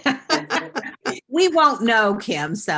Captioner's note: laughs